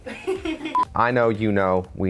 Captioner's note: woman laughing; beep